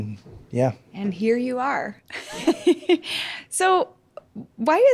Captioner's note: laughs